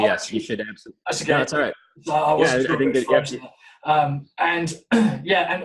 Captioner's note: audio distorting